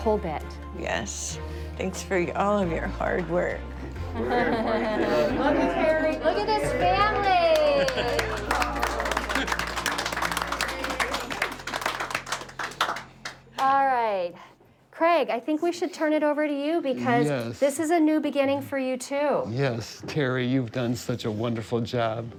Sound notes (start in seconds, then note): 6.7 applause